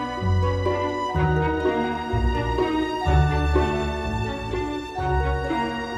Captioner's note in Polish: none